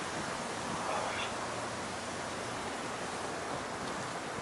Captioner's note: grunts